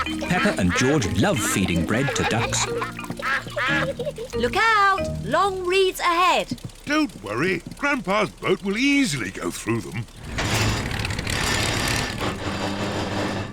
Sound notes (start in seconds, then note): 9.4 clunks and splutters